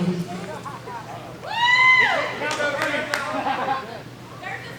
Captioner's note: cheers